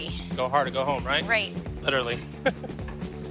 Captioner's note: chuckles